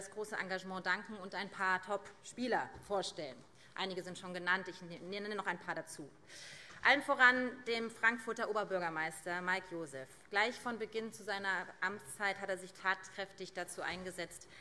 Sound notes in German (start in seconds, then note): none